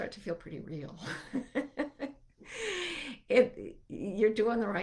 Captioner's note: laughing